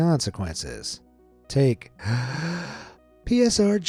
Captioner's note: breaths deeply